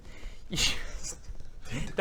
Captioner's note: laughs